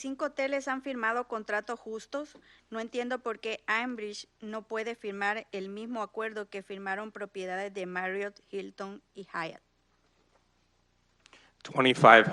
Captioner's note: speaking in Spanish